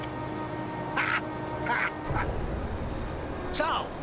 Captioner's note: laughs